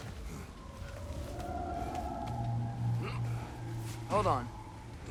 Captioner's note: sound of a creature in the distance